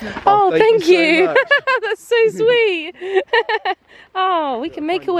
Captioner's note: laughing